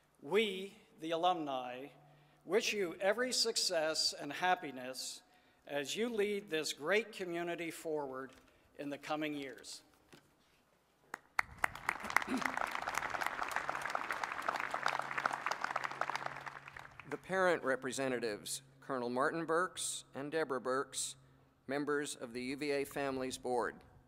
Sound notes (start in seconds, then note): 11.1 applause